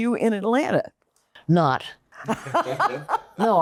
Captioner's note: laughing